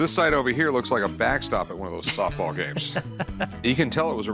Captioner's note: laughing